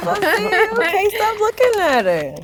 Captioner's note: chuckles; laughs